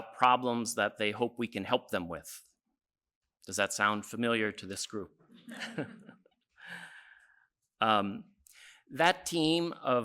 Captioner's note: laughs